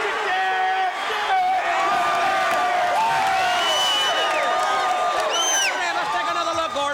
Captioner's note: crowd cheering